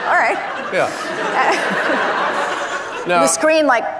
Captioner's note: audience laughing